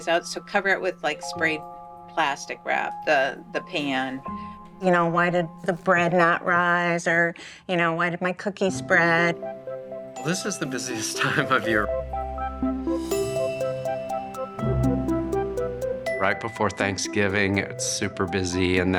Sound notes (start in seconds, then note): 12.5 whimsical music; 13.0 bell dinging